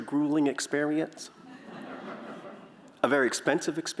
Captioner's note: laughter